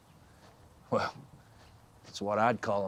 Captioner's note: laughs